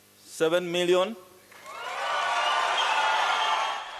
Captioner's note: cheering and applause